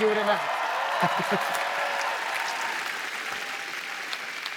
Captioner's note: applause